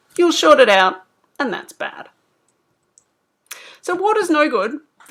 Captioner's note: none